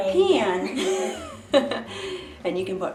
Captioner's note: chuckles